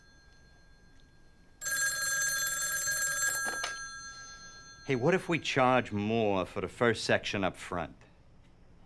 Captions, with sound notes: (phone clanks) Hey, what if we charge more for the first section up front?